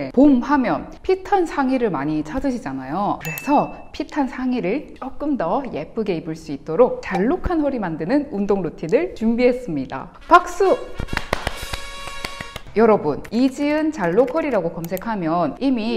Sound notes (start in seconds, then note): 11.1 clap clap clap